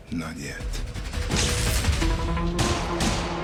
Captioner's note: electricity crackles; gunshots